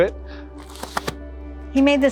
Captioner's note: door opening